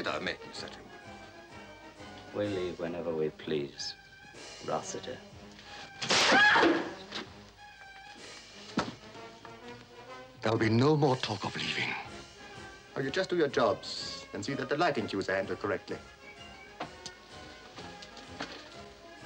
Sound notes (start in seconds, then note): 6.0 whip cracks; 6.1 Angela yelps